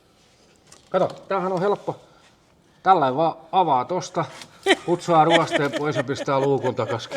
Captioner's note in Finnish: naurua